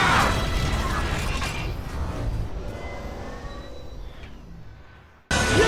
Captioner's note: mechanical Sounds